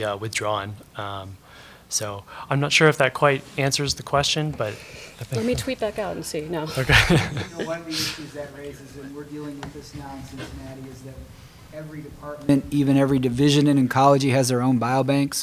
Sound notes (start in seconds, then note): 6.7 laughter